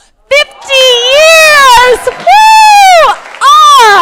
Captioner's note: crowd applauding